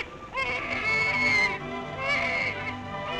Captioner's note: baby crying